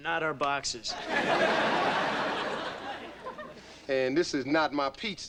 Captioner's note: audience laughing